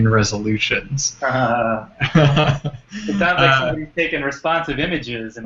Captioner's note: laugh